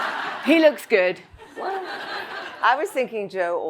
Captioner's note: all laugh; audience laughs